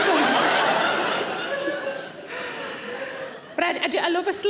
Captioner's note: audience laughing